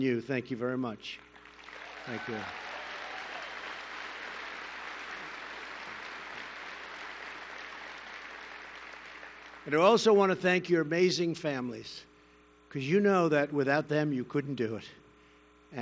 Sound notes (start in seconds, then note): 1.2 applause